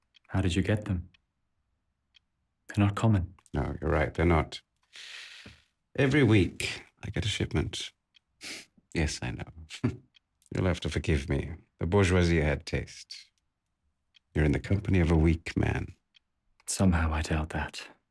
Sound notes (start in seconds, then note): 8.7 Alojzije scoffs; 9.6 laughs